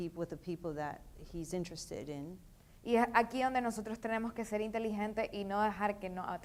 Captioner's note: speaking in foreign language